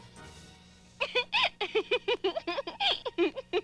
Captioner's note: giggling